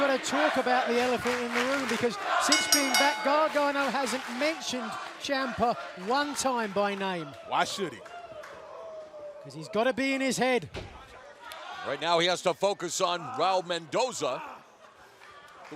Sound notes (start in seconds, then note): 2.4 bell ringing